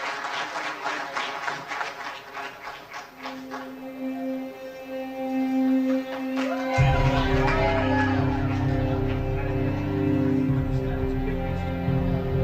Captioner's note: applause